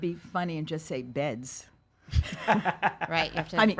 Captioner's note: laughs